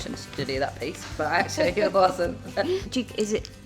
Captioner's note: both laughing